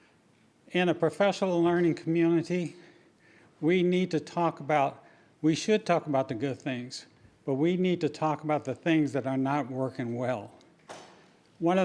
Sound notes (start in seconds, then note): none